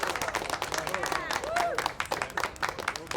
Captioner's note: cheers